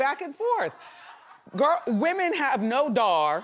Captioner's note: audience laugh